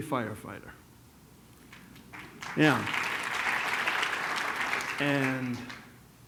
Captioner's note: applause